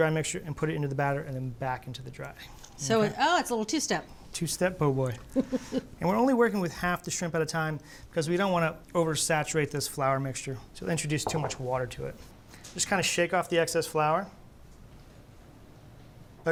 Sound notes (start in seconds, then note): 5.3 chuckles